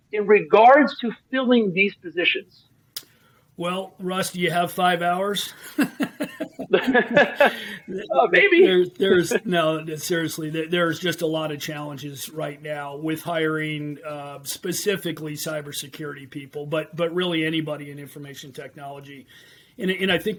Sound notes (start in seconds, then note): 4.8 chuckles